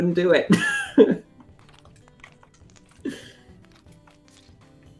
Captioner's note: laughs